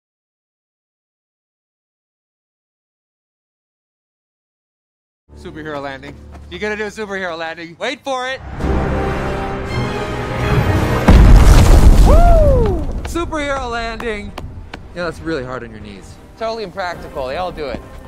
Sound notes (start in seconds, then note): 11.0 shockwave